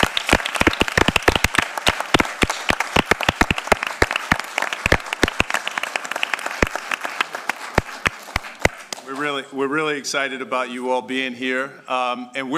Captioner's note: applause